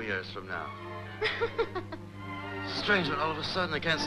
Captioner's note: laughing